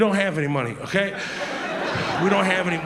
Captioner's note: audience laughs